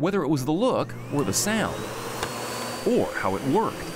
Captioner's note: vacuum motor humming